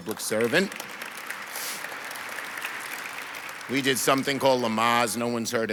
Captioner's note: audience applauds